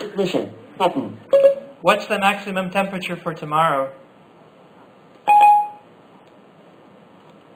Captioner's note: Siri beep